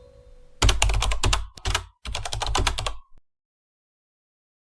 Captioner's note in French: bruit de clavier